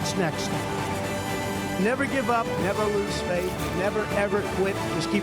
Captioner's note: applause